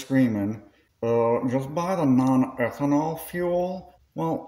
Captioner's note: discord mod voice